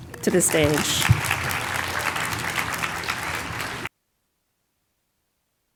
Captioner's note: applause